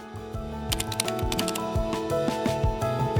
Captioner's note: rhythmic music; text clicking; vibrant music